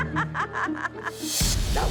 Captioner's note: laughs